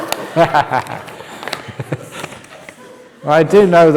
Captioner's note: laughter